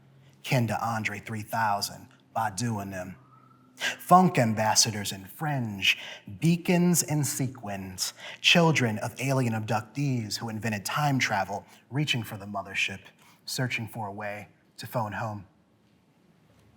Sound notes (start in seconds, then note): none